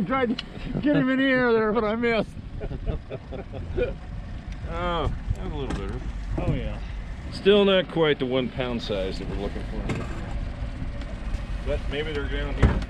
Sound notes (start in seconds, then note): 2.6 laughing; 4.5 chuckling